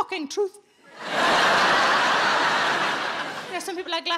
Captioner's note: audience laughing